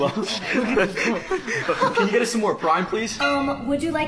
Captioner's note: laughs